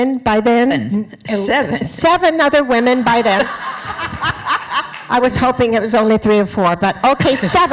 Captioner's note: laughter